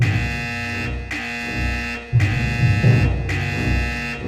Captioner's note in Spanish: Alarma sonando; Alarma de Urgencia